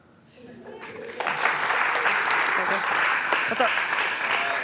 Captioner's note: applause